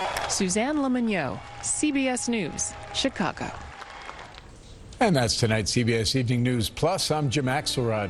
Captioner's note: applause